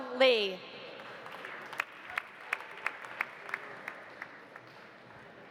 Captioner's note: audience applauding